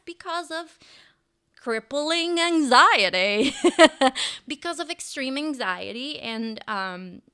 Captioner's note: laughs